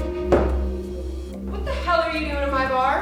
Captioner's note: bottle thuds